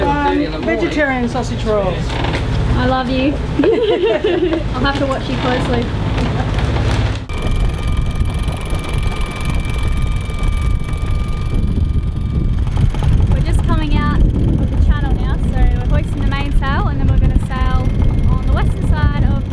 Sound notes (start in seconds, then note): 3.5 both giggling; 7.8 gears whirring and clicking